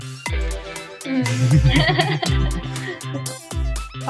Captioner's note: both laugh